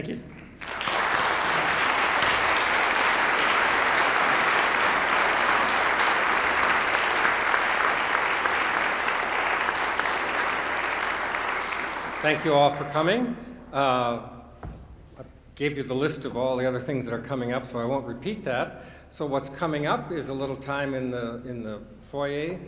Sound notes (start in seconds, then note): 4.8 applause